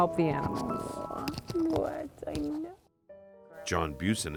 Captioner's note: murmuring